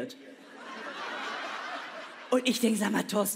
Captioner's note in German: Lachen